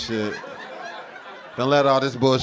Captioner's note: audience cackles